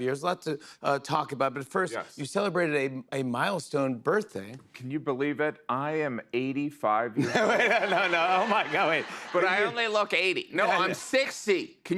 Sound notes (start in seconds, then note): 7.2 laughter